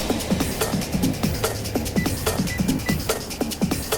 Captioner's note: walk signal chirps